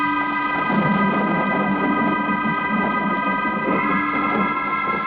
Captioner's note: thunder rumbling